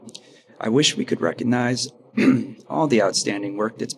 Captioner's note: clears throat